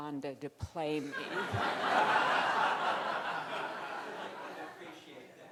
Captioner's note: crowd laughing